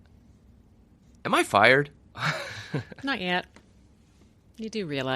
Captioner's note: chuckles